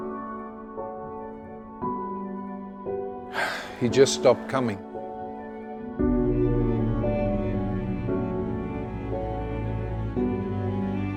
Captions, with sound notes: (sighs) He just stopped coming. (gentle music)